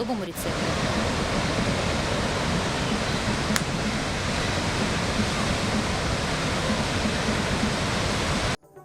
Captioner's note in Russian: шум водопада